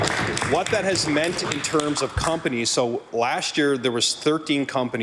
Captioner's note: some Applause